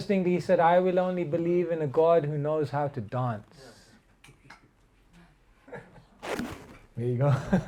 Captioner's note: laughter